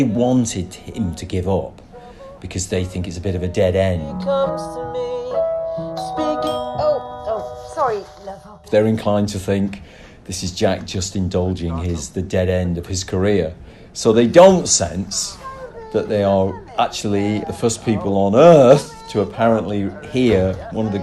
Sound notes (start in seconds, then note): 4.6 singing; 5.3 doorbell ringing